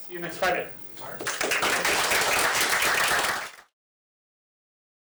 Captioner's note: applause